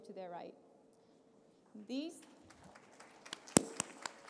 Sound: applause

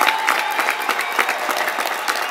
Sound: applause

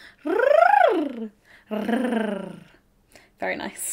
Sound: rolls tongue

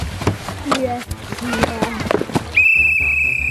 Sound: toys putter; whistle blows

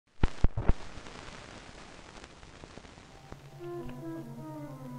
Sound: film crackling; tense music

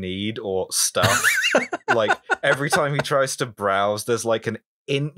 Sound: laughter

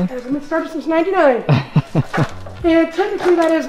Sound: chuckling

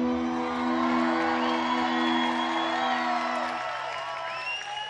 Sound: audience cheering

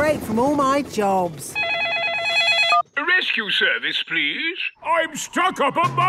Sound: phone ringing

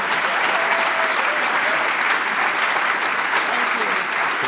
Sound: applause

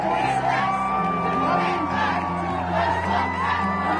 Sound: cheering

